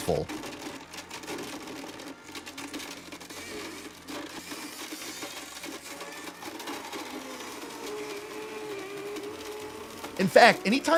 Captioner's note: Blending Jar Jar Noises